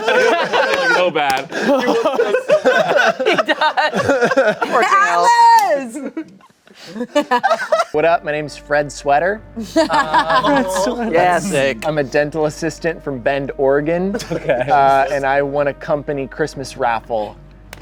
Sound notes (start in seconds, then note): 0.0 everyone laughing; 9.6 laughing